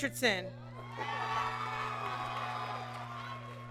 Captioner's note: applause